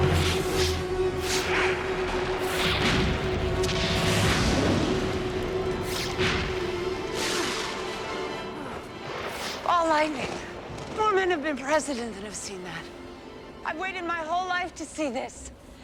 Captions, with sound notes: (whooshing) (explosions boom) - Ball lightning. More men have been president than have seen that. I've waited my whole life to see this.